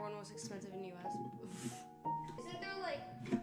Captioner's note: scoffs